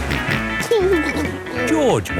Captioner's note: snorts and giggles